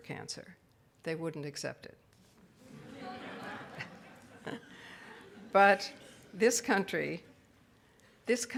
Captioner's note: audience laughs